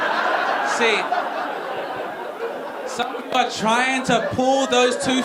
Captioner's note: audience laughing